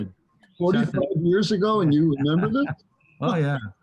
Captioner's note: laughter